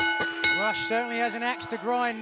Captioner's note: crowd cheering; bell ringing